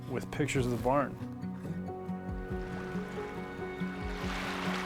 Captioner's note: waves lapping